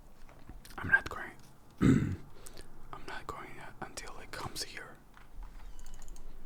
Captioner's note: whispers; gate clicks